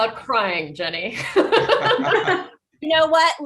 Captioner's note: group laughing